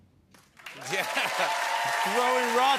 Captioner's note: cheers and applause